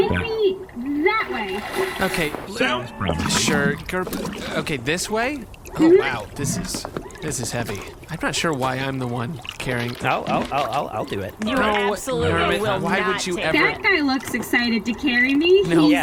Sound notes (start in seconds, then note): 0.7 splashing sounds; 5.1 tank sloshes